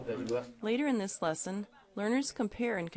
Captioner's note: voiceover